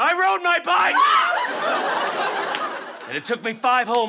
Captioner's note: all scream